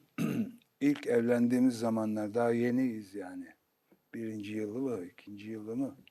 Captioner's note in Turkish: boğazını temizler